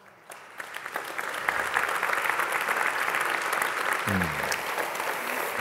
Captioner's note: Applaus